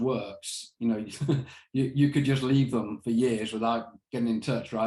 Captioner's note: chuckles